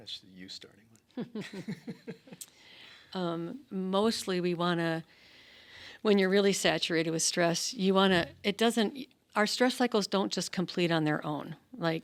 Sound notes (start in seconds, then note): 1.1 laughing; 1.2 laughs